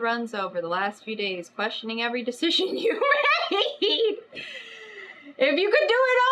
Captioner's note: laughs